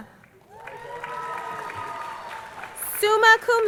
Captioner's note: crowd cheering